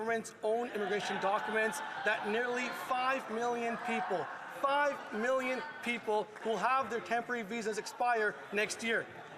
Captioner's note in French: voix de l'interprète